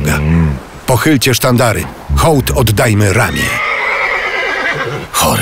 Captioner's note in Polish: koń rży